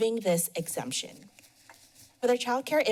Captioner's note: pause